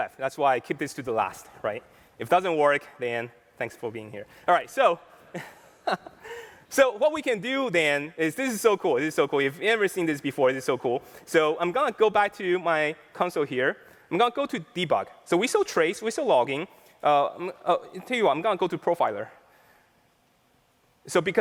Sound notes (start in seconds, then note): 5.3 laughter